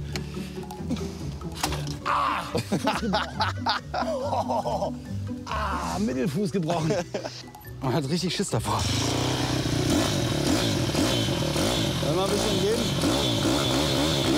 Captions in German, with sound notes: Ah! *Lachen* Mittelfuß gebrochen. Man hat Schiss davor. *Motor startet.* Soll ich noch etwas geben?